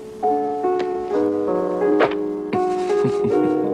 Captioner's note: chuckles